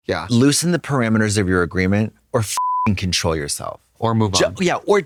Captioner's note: beep